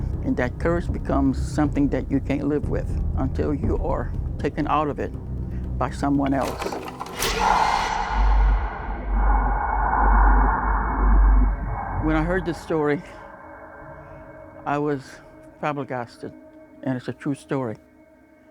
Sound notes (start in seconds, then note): 6.2 film reel clacking; 7.2 Rougarou roaring; 8.3 ominous music